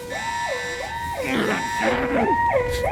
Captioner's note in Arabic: يئن